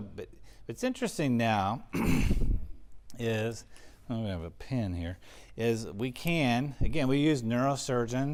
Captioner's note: cough